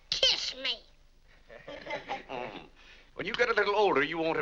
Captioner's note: family laughs